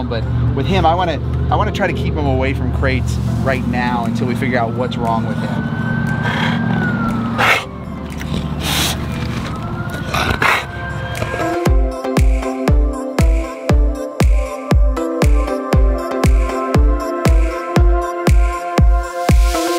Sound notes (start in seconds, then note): 6.2 sirens sound